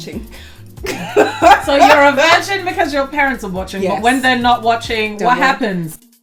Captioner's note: laughs